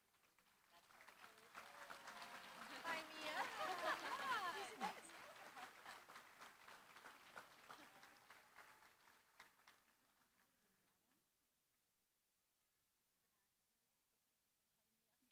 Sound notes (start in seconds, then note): 0.2 applause; 2.8 laughter